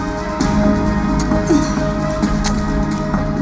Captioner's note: tie snaps